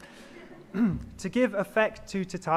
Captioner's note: audience laughs